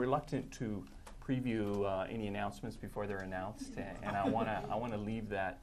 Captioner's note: laughter